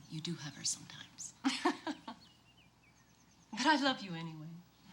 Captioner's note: laughs